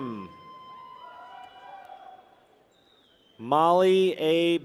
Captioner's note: people cheer